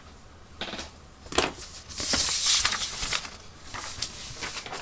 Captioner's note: shuffling papers